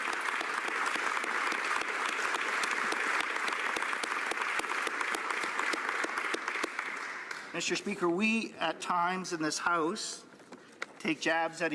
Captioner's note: some Applause